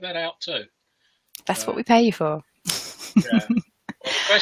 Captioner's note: laughs